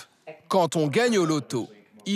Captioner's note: none